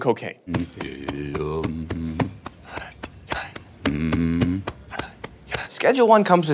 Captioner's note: making nonsense sounds